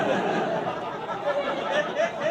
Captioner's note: laughter